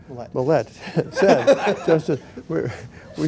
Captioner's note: laughter